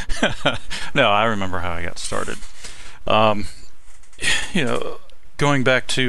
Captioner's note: laughing